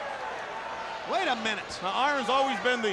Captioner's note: crowd cheering